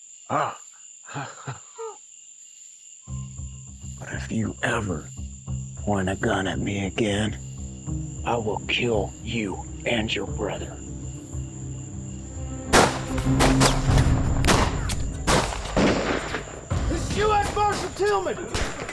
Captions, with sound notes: [LAUGHTER] BUT IF YOU EVER POINT A GUN AT ME AGAIN, I WILL KILL YOU AND YOUR BROTHER. [GUNFIRE] THIS IS U.S. MARSHAL TILGHMAN!